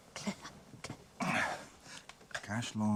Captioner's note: grunts